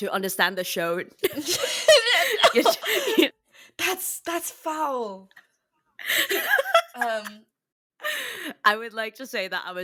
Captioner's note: laughs